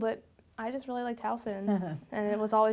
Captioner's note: laughs